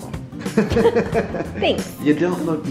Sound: laughing

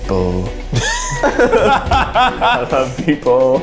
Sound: laughs

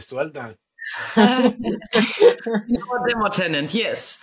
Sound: group laughing

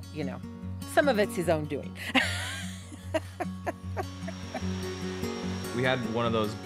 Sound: laughing

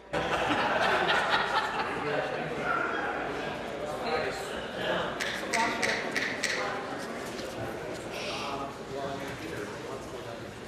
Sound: conversation din

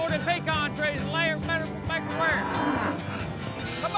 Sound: cow grunts

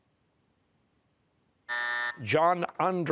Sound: buzzer

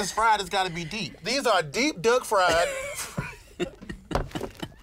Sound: both laughing

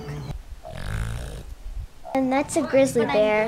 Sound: dall sheep grunt

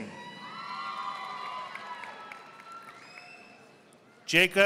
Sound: audience applauding

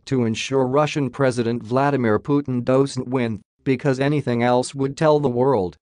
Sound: Russian

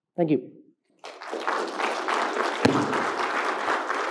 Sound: claps

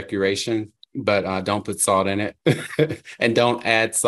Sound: chuckles

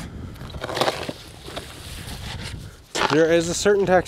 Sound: shovel rattling; wind whooshing

